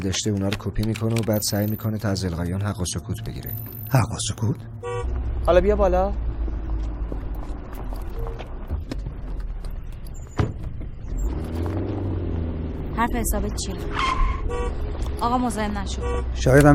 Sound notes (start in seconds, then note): 4.8 car horn honking; 10.3 car door closing; 14.0 tire screeching; 15.8 car horn honking